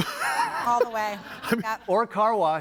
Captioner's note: audience laughing